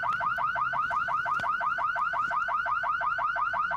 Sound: car alarm blaring

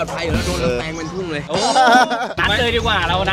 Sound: laughs

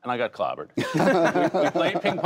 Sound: laughter

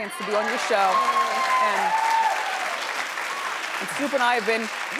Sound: audience cheering

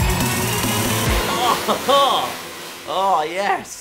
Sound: maniacal laugh…

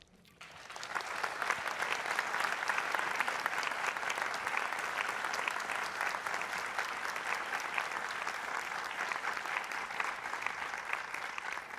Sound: applause

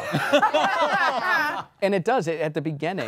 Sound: all laughing

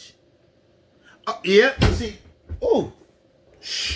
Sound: chair bangs

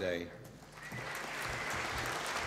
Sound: applause

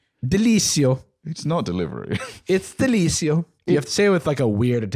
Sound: Italian accent

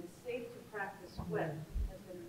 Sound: none

